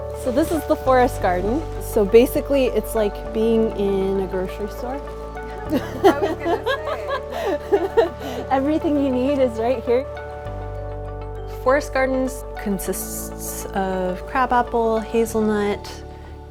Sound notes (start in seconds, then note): 5.7 laughs